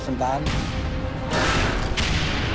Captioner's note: speaking in foreign language; tank turret firing; shell exploding